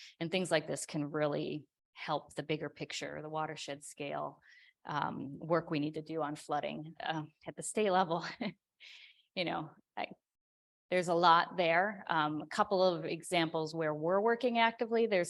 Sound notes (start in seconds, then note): 8.5 chuckles